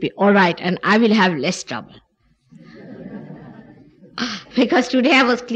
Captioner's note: laughter, She laughs